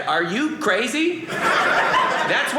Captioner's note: audience laughing